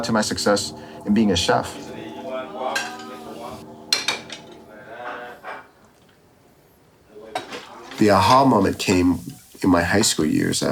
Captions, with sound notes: to my success in being a chef. (speaking in a foreign language) (utensils clanking) The A-Ha moment came in my high school years